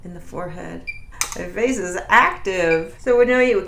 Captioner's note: microcurrent beeping